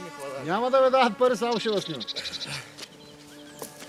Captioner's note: drivers chattering